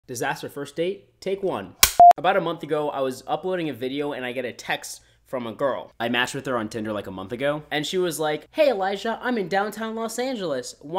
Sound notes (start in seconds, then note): 1.8 snaps clapboard; 1.9 screen beeps